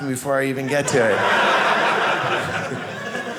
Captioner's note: audience laughing